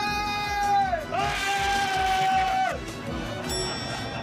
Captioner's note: screaming